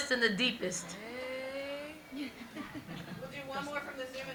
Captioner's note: everyone laughing